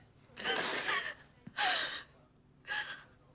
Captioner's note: sobbing